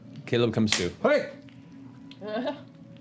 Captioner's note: slapping